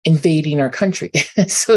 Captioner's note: chuckles